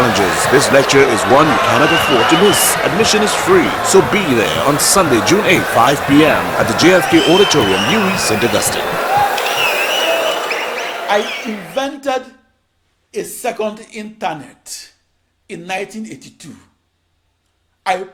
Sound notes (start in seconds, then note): 8.1 wild applause and cheering for 22 seconds